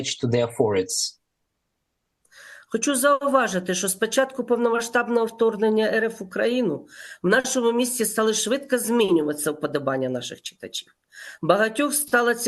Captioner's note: foreign language